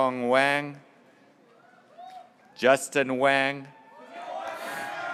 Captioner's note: graduates cheering